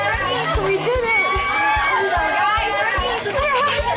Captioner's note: women cheering